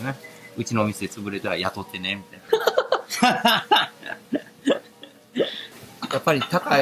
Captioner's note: laugh